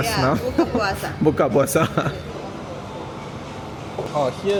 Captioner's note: laugh